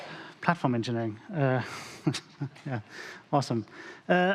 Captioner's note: chuckles